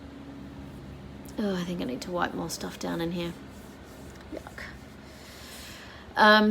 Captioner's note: deep breath in